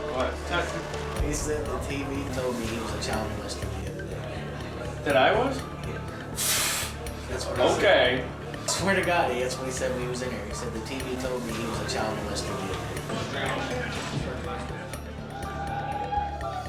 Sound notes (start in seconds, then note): 6.2 scoffs